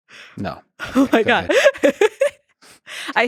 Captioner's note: laughing; laughs